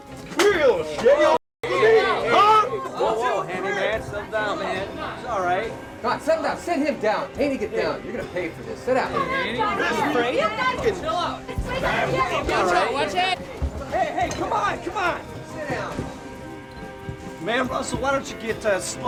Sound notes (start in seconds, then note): 0.1 can thuds; 1.6 group shouting; 9.1 group shouting